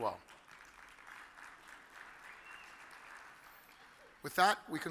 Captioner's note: audience applauds